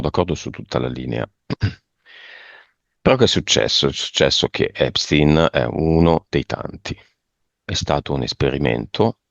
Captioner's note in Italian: schiarire la voce